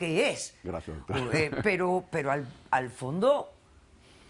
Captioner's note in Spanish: Ríe